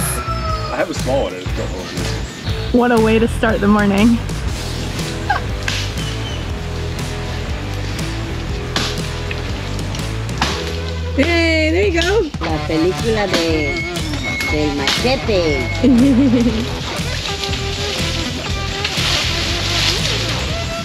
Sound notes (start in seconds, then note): 12.3 speaking spanish; 15.8 laughter